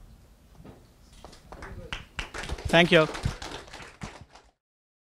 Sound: audience applause

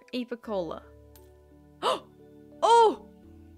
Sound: gasp

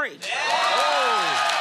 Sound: cheers and applause

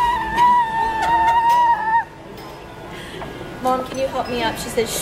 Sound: squeeling

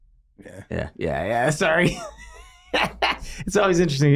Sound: Glenn laughs

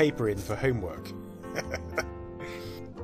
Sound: chuckles to self

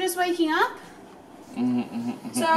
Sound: laughs

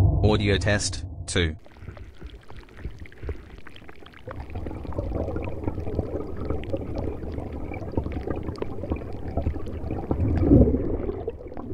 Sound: eerie ethereal transitional SFX; underwater ocean sounds with bubbling water and very faint far away rumble

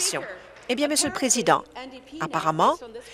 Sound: applause

